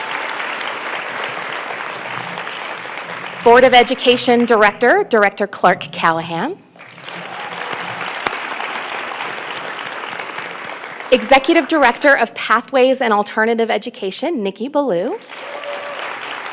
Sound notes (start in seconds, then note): 4.7 applause